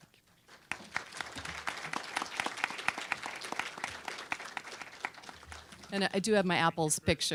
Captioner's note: applause